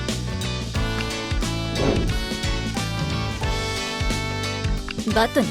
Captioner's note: woosh